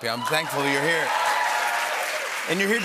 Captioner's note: cheers and applause